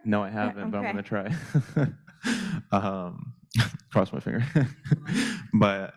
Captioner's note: laughs